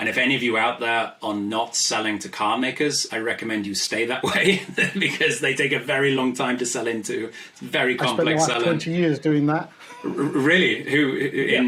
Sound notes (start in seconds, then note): 4.2 laughs; 9.8 laughs